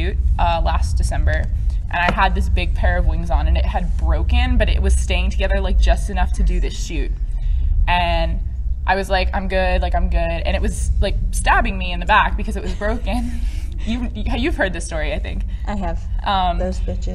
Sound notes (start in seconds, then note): 9.5 laughs